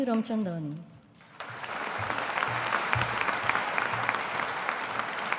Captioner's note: audience applauding